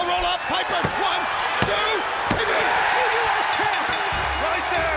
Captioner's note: audience cheering